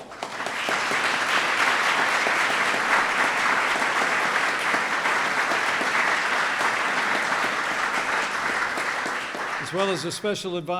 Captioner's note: applause